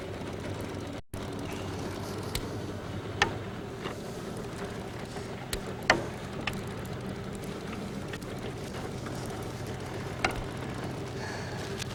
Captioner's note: panting